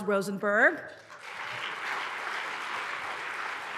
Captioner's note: applause